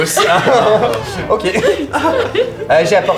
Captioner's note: laughter